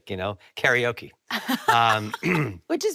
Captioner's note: laughing; clears throat